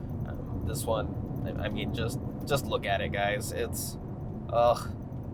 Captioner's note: groans